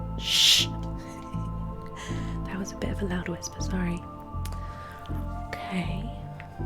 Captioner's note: laughs